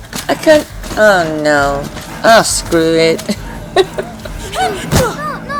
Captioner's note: laughs